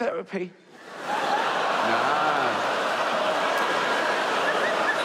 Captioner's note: audience laughs